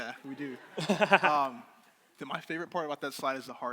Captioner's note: crowd laughing